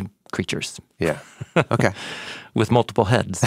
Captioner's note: laughs